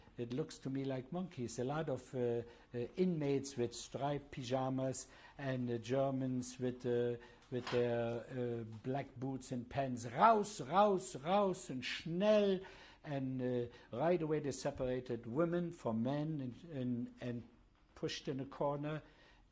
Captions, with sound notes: it looks to me like monkeys, a lot of the inmates, with striped pajamas and the Germans with the-- with their black boots and pens. [SPEAKING GERMAN] And right away, they separated women from men and-- and-- and pushed in a corner.